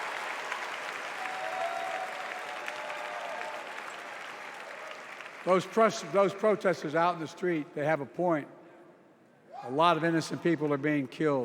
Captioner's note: cheers and applause